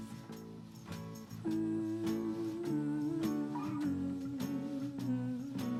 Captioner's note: humming